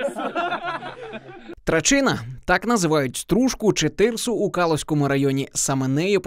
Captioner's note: voiceover